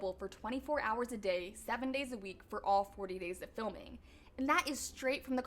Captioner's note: none